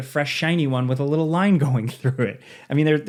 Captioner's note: chuckles